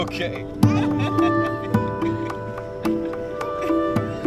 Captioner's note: laughing; gentle music